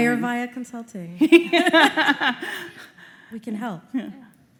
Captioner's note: laughter